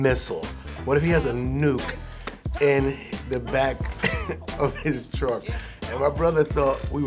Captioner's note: chuckles